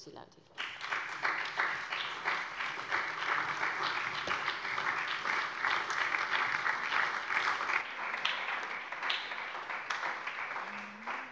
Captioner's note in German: Allgemeiner Beifall